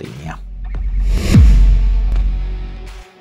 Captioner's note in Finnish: siirtymä-äänitehoste